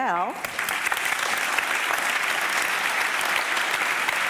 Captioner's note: audience applauding